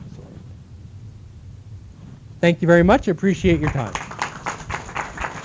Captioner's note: applause